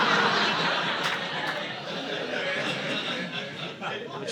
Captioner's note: audience laughing